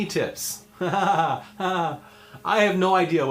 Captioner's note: laughs in despair